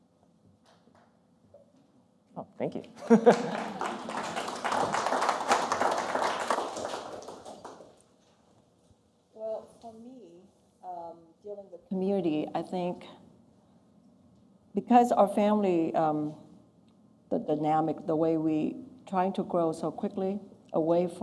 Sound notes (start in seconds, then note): 0.2 one person applauds; 3.0 laughter and applause